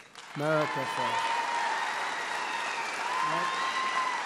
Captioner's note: applause